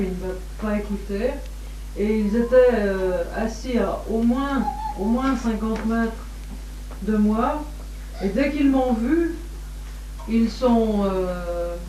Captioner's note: Shri Mataji laughs